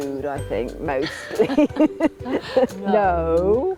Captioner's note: both laughing